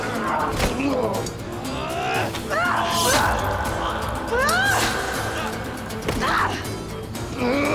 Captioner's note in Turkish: Müzik - Hareketli; Savaş sesleri; Dövüş sesleri